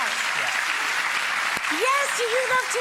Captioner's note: audience claps